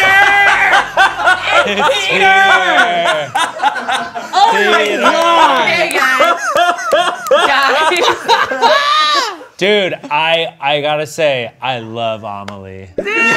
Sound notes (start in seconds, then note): 0.0 laughing; 8.2 cackling; 13.0 all laughing